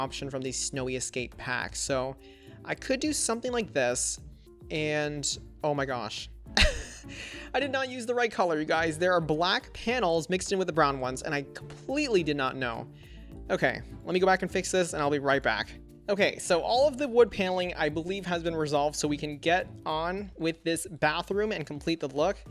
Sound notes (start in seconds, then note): 6.6 chuckles